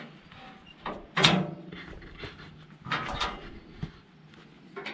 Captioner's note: metal banging